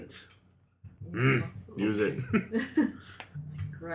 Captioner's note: agreeable grunt